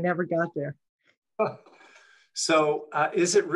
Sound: chuckles

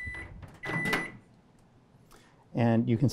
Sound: opening microwave; beeping

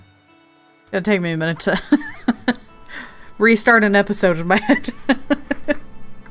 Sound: laughing

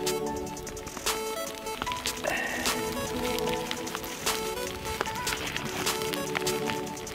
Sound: fire crackling; heavy breathing; electronic music

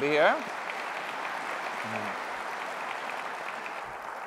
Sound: applause

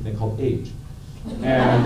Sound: laughter

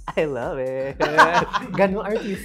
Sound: laughs

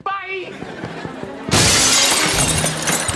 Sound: shattering

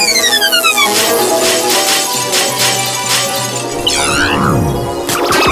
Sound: shattering pieces; fire burning

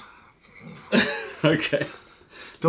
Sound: laughter

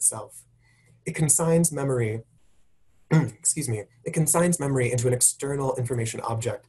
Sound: cough

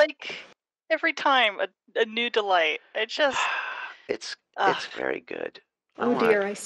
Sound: sighs

